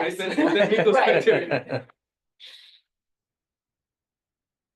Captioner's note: laughter